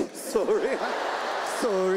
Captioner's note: audience laughs